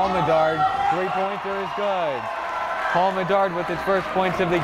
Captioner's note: cheering